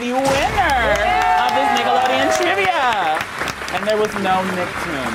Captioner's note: audience applauding